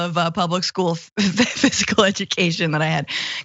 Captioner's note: laugh